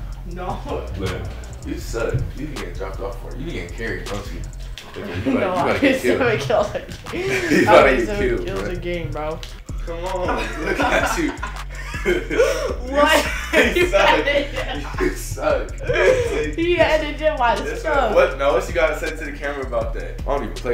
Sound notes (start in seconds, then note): 0.4 laughs; 5.6 laughs; 10.2 laughter